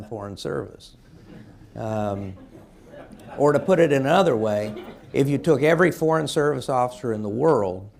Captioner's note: laughter